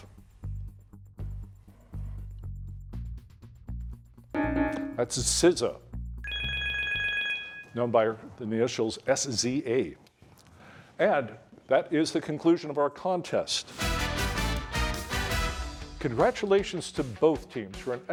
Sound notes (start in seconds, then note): 0.2 soft music; 6.2 bell ringing